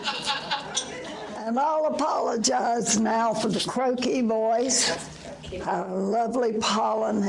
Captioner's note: audience laughter